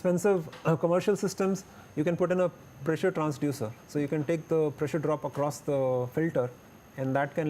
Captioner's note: electronic controls